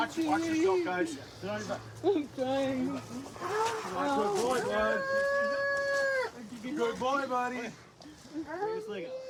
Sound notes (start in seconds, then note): 5.0 wails